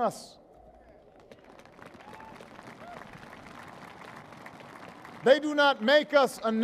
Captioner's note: applause